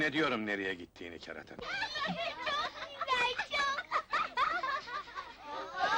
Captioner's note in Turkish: çocuk gülüşmeleri